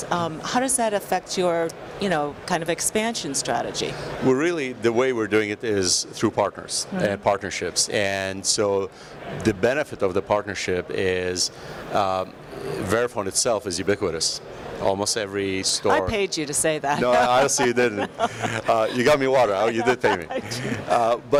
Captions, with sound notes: How does that affect your kind of expansion strategy? - Really the way we're doing it is through partners and partnerships and so the benefit of the partnership is; Verifone itself is ubiquitous. Almost every store - I paid you to say that. (Laughs) - No, no (laughs). Honestly you didn't. You got me water. You didn't pay me.